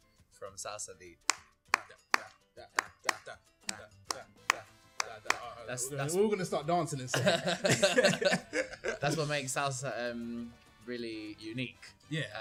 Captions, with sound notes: *Clapping* "Were all going to start dancing in a second" *Laughing* "That's what makes Salsa really unique" "Yeah"